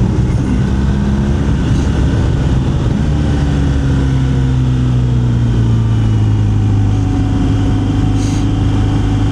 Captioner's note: engine